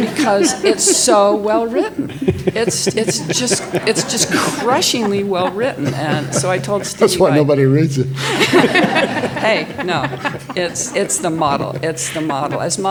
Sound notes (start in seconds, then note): 4.9 all laughing; 8.4 all laughing